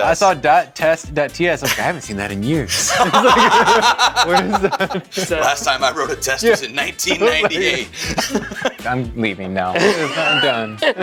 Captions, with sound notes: I saw dot test dot TS. I'm like, "I haven't seen that in years." (laughing) Last time I wrote a test, it was in 1998. I'm leaving now. I'm done.